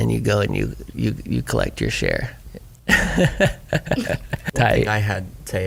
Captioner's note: laughs